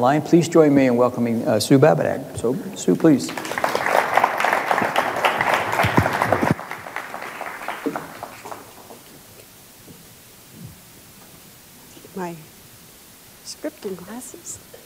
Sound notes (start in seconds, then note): 3.0 audience applauding